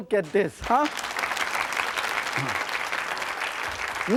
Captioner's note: clapping